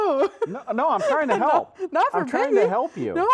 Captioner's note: laughs